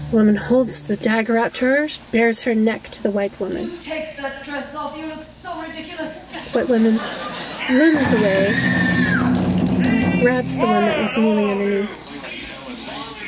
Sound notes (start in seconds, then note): 8.0 screaming, music